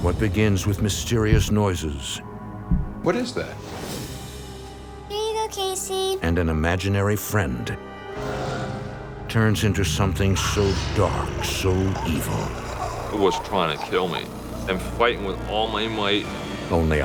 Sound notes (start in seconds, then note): 2.6 light thudding